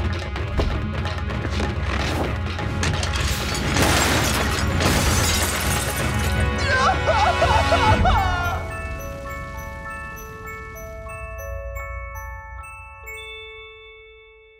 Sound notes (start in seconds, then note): 6.7 crying